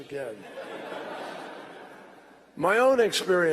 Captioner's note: laughter